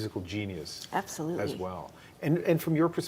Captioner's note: speaking French